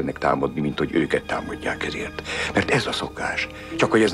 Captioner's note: none